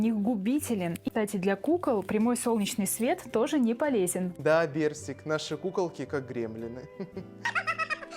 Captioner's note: laugh